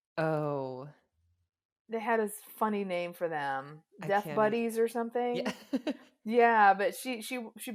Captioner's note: chuckles